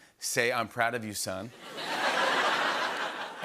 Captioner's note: laughter